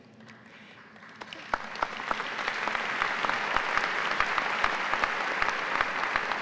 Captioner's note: applause